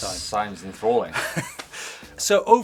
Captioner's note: laughs